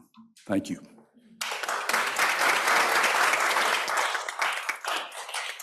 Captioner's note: applause